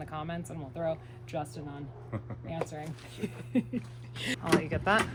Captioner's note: laughs